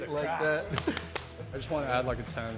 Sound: hands and knees slapping

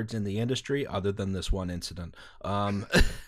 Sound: laughter

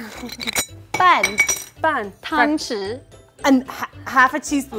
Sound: speaking in mandarin

